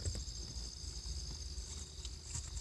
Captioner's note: thud of item falling